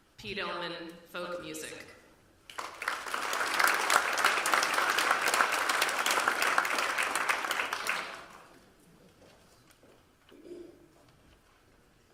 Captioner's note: applause